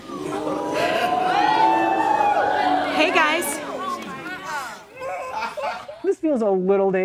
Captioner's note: woooo